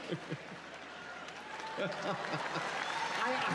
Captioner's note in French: L'audience rit